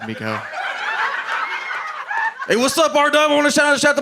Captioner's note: audience laughing